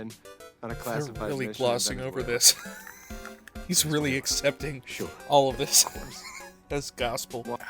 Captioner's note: wheeze